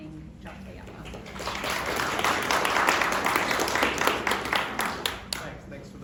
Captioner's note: applause